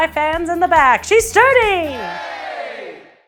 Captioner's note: crowd yells yay!